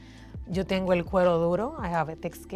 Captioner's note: speaking foreign language